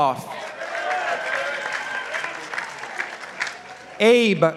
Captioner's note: participants applauding